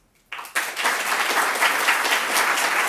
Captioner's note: applause